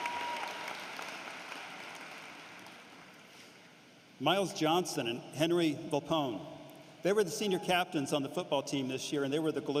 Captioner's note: cheering and applause